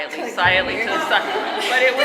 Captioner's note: audience laughing